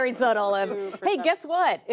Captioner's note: laughter